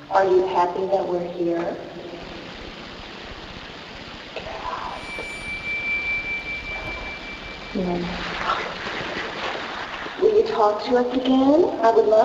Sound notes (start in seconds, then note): 2.5 static buzzes; 4.2 ghostly Voice; 5.6 tense music